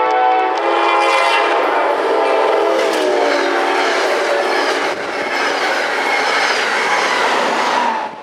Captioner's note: train noise